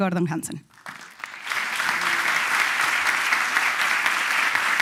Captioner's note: applause